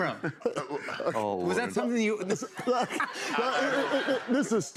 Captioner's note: laughter